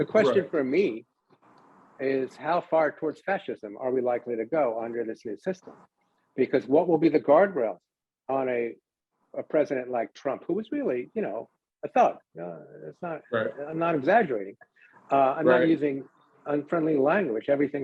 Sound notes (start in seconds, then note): none